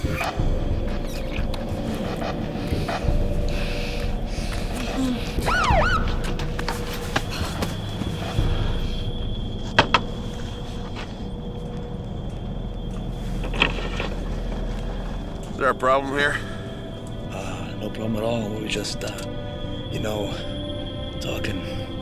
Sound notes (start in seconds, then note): 0.3 lips smacking; 4.2 siren blaring; 4.6 soft moaning; 10.2 knocking; 14.0 window rattling